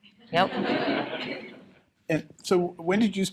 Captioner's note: laughter